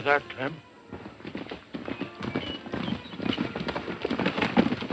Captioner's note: galloping hooves